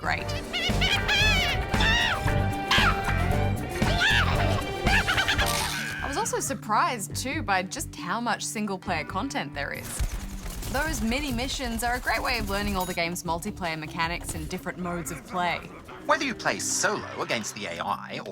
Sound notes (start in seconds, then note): 0.2 shrieks; 2.6 cackles